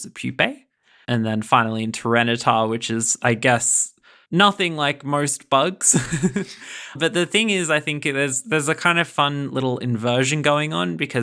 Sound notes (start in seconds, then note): 5.9 laughing